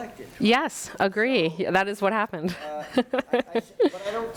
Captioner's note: laughs